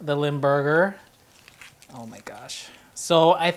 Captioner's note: package unwrapping